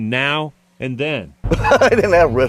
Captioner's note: laughs